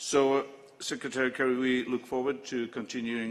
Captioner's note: none